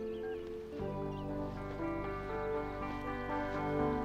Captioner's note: birds chirping